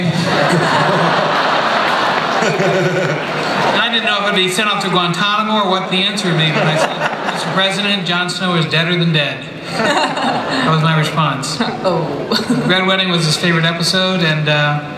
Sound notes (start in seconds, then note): 0.0 laughter; 9.6 laughter